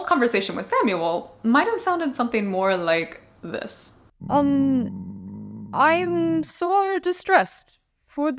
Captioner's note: stomach rumble!